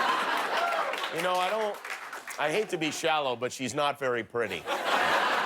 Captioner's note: laughter